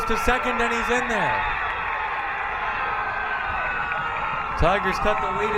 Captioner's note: crowd cheering